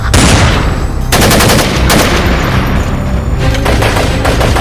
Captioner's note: gunshots